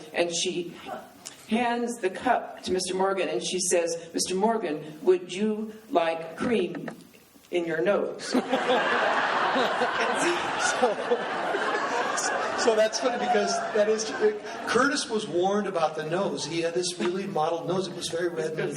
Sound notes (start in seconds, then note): 8.3 laughing